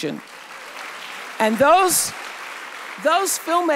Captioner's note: audience applauds